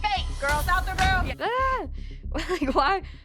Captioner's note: chuckles